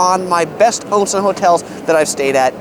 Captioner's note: speaks in foreign language